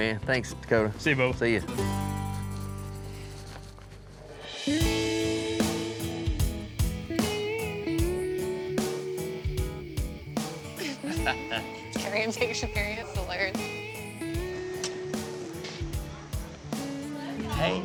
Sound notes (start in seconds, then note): 10.7 laughing; 12.3 chattering